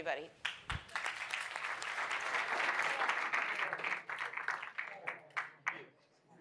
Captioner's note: applause